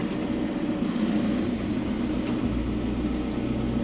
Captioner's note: lift whirring